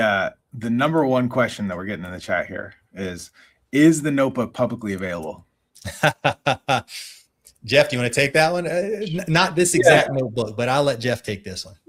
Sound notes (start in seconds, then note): 5.8 laughs